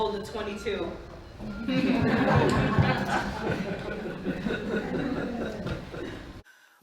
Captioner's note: laughter